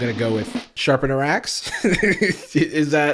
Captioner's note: laughs